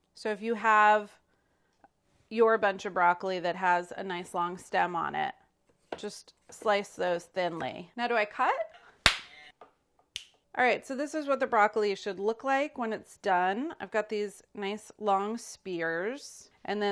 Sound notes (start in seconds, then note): 9.0 clap; 10.1 finger click